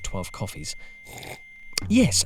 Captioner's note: slurps coffee